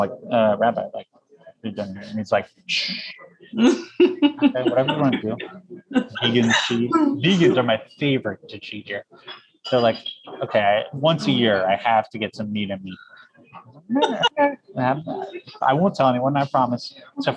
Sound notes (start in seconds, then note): 6.1 laughs